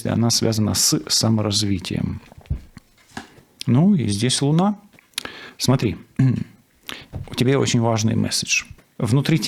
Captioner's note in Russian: откашливается